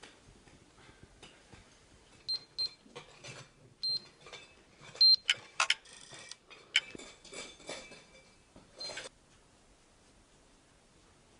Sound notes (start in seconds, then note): 1.7 beep Beep ... Beep ... Beep